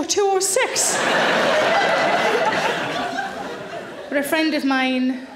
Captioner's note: audience laughing